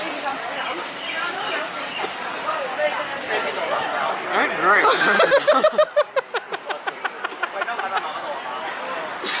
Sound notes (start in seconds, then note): 1.6 laughing at Charlie's incompetence